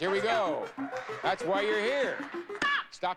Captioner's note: audience cheering